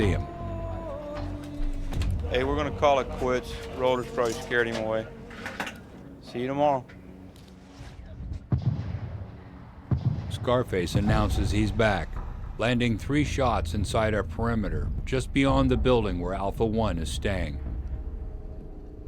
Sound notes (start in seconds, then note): 2.4 bell; 8.4 mortar explosions; 11.5 voiceover